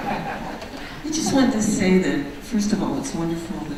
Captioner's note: voiceover